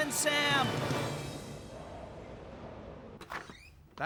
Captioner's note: wind Blowing